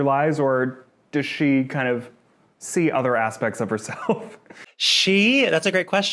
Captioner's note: chuckles